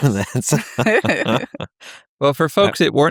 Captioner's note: both laughing